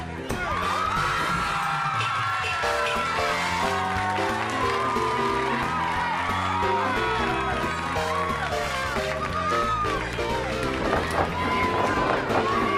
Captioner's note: crowd cheering